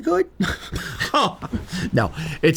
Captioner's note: laughs